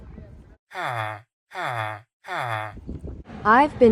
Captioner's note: villager noises